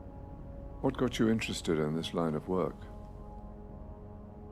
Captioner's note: voiceover